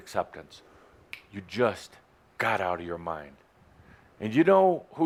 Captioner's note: snaps his finger